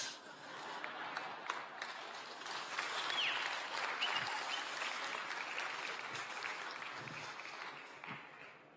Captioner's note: applause, laughter